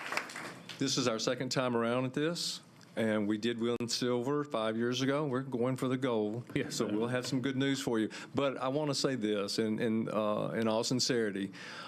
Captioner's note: applause